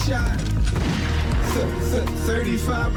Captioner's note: gunshot